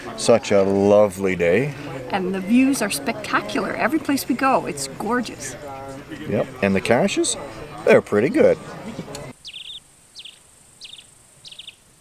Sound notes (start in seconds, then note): 9.1 birds tweet